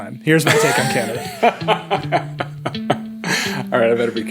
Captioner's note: laughing